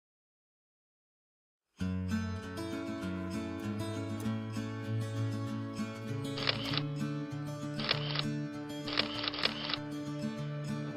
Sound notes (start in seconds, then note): 6.5 camera shutter clicking